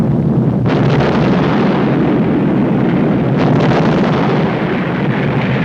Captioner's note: massive explosion